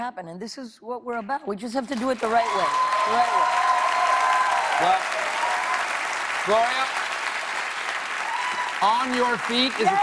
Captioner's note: cheers and applause